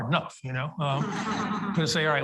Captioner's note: audience laughs